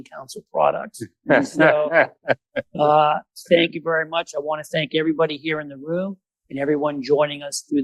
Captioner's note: laughter